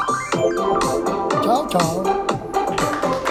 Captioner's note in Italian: Applauso